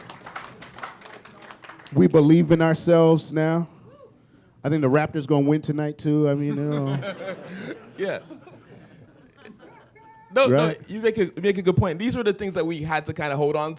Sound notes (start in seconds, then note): 0.0 applause; 6.4 laughter